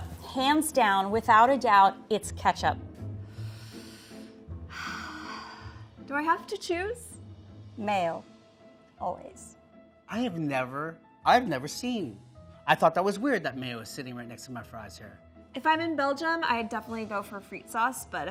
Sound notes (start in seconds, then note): 4.6 sighs